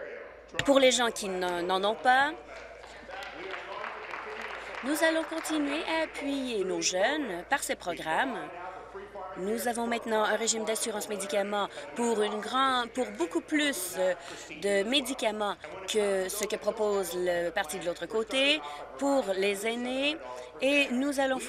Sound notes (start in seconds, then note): 7.4 applause